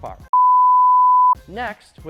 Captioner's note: high tone beeps